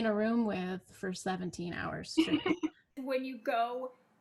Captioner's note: laughs